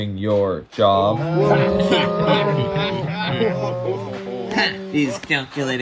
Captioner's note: ooos and laughing